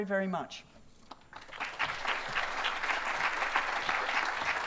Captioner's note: applause